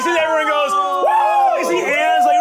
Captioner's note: cheers